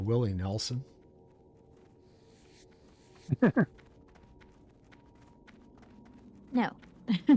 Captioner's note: laughing